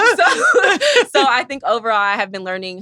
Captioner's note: all laughing; laughs